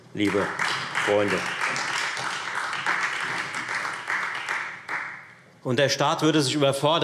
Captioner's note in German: Beifall Freie Demokraten